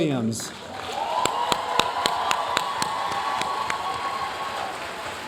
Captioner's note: audience cheering and applauding